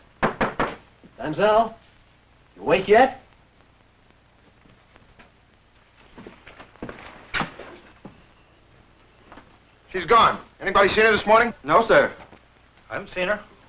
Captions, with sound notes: [knocking] Mademoiselle? Awake yet? [footsteps] - She's gone. Anybody seen her this morning? - No, sir. - I haven't seen her.